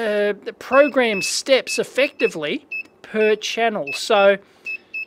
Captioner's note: beeps